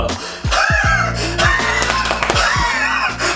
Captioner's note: laughing